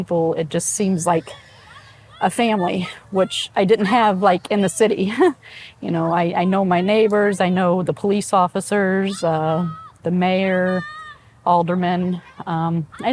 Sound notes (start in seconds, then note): 5.2 laughs